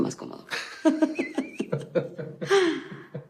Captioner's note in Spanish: Risas